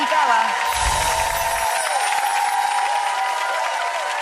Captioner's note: audience applauding